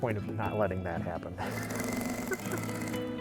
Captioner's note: laughing; soft upbeat music